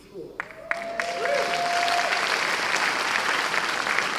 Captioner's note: cheers and applause